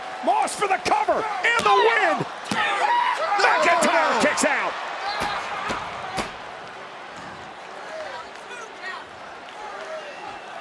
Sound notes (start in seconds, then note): 0.2 wrestlers yelling; 2.8 hand pounding; 5.1 hand pounding